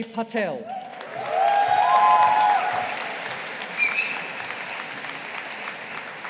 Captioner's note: audience applauding